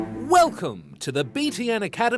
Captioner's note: none